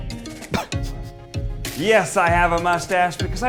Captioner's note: laughs